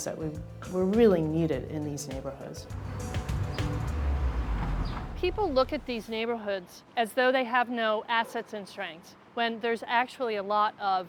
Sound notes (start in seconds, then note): 2.7 car driving; 2.8 gentle music